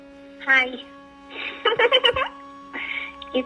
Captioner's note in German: lacht